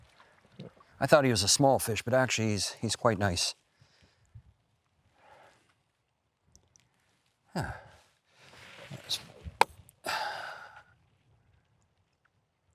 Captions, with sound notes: I thought he was a small fish, but actually, he's quite nice. Ah. (sighs)